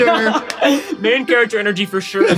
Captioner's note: laughs